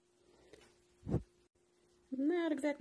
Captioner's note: woosh